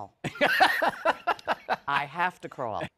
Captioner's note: laughs